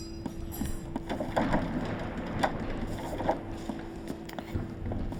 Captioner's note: knife clattering; door rattling